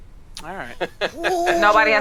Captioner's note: laughing